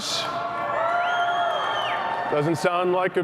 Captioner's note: cheering